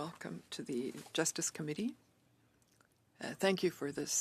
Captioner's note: speaking in French